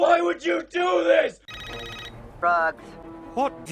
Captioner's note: phone Rings And Dial Picks Up